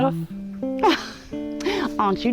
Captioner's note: flattered laughter